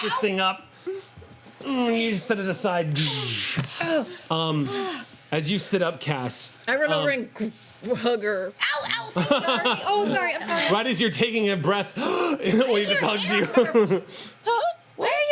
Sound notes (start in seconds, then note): 3.5 panting; 12.5 laughing; 12.5 gasps